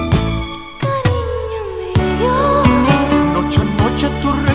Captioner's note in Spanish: Voz de mujer